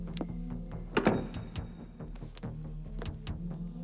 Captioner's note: door closes